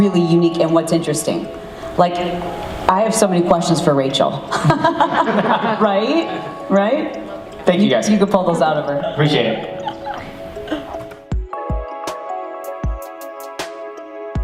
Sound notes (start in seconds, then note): 4.5 laughs; 8.8 laughs; 11.6 upbeat music